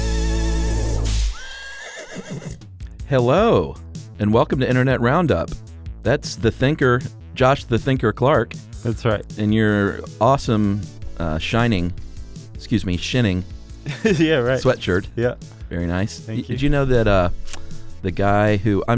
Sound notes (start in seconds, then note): 1.1 whip cracking and horse neighing